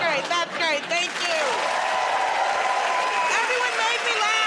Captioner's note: cheering and applause